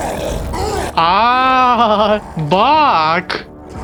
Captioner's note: the sounds of a broken synthesiser